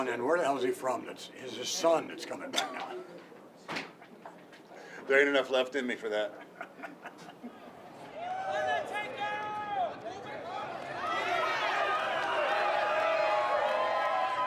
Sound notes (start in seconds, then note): 6.2 Vince laughs; 7.6 fans shouting and cheering